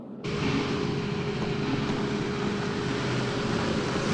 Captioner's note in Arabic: هدير المحرك